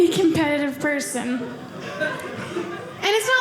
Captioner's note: audience laughing